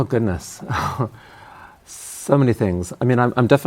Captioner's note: laughs